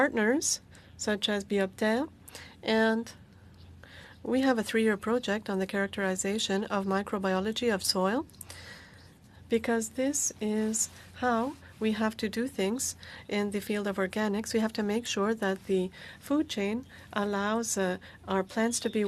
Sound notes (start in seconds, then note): 8.0 speaking French